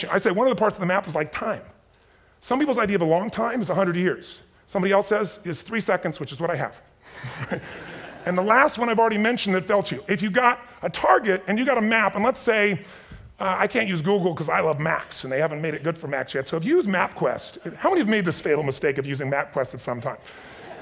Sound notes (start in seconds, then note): 7.2 audience chuckles; 20.5 audience chuckles